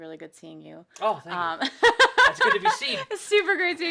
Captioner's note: laughing